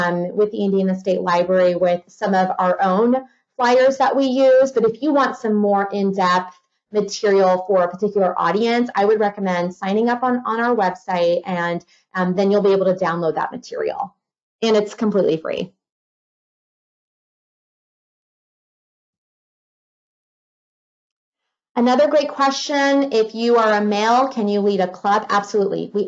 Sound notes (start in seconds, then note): 18.6 silence